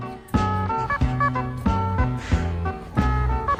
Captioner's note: laughing